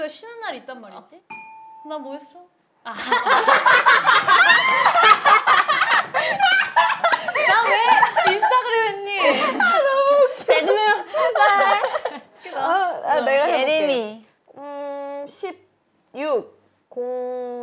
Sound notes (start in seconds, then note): 4.2 laughing